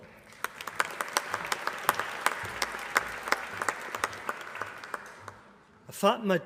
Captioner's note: applause